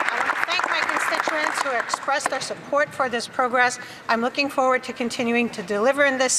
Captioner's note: applause